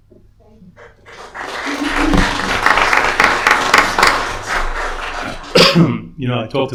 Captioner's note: applause